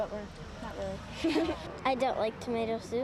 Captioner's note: laughter